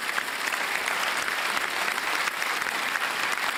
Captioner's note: applause